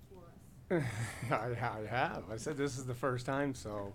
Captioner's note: laughing